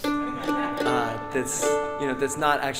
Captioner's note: audience laughing